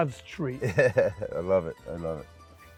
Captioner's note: laughs